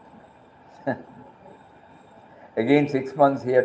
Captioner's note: laughs